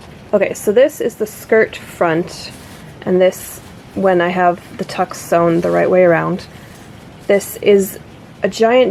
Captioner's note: none